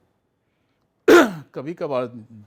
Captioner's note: clears throat